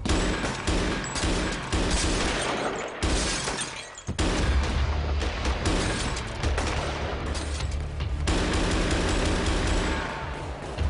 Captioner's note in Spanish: Disparos